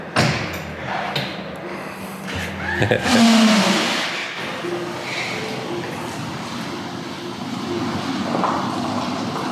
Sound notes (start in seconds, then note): 0.2 car door shuts; 2.4 chuckles; 3.0 car accelerates